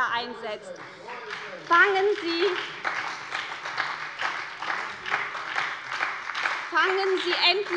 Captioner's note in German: Beifall bei der SPD